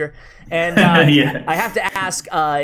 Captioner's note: laughing